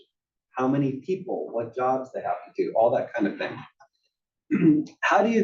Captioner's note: cough